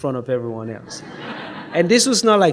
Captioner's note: audience laughs